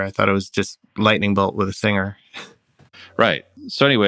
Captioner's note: laughter